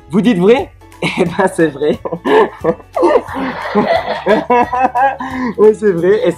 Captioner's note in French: rires